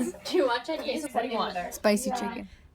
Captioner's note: overlapping chatter